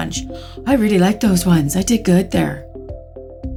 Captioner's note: gasp